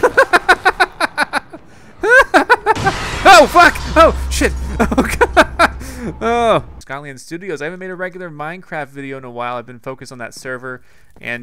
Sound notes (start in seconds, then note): 0.2 laughs; 2.4 crash